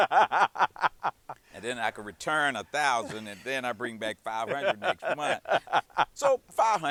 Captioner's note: laughter